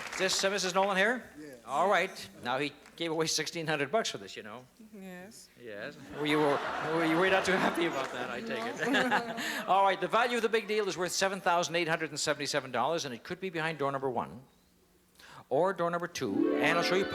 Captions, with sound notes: Is this Mrs. Nolan here? - Yes. - All right. Now he gave away $1,600 bucks for this, you know? - Yes. - Yes. [LAUGHTER] Well, you were-- you were not too happy about that, I take it. [LAUGHTER] - No. - All right. The value of the big deal is worth $7,877. And it could be behind door number one, or number two.